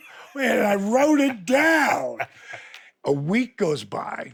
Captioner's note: Steve laughs